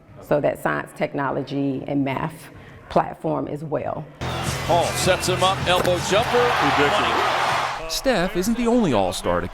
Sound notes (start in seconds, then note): 6.8 audience cheering